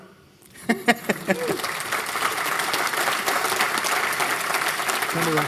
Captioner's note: applause